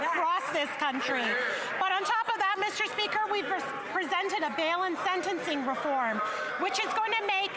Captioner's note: none